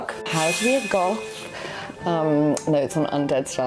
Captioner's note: blade swishing